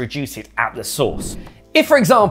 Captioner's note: air swooshing